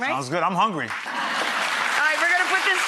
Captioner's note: audience claps